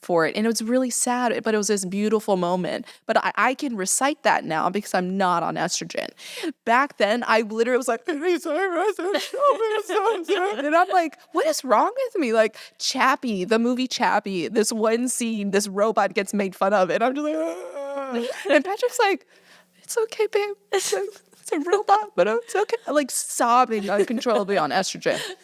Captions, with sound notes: And it was really sad, but it was this beautiful moment. But I can recite that now because I'm not on estrogen. Back then, I literally was like, (uncontrollable sobbing), and I'm like, "What is wrong with me?!" Like "Chappie," the movie "Chappie," this one scene, this robot gets made fun of and I'm just like, (sobbing) and Patrick's like, "It's okay, Babe. It's a robot, but it's okay." Like sobbing uncontrollably on estrogen.